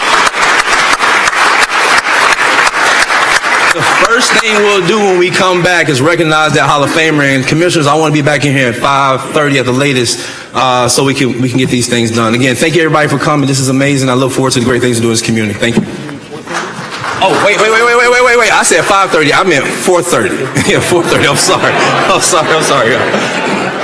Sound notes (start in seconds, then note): 6.1 applause